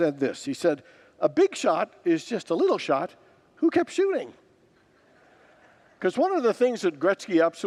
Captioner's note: congregants laugh